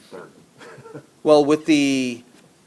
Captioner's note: laughs